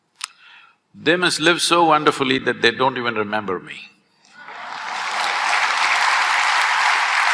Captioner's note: laughter/Applause